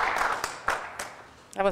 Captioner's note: applause